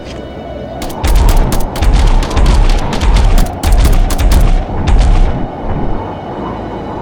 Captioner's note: gun blasting; steps thudding; claw clinks